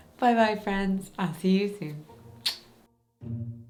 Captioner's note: kissing; light music